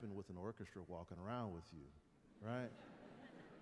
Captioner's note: light laughter